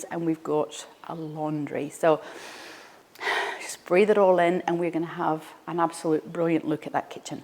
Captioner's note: breathes in